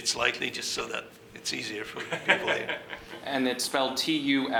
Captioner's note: laughing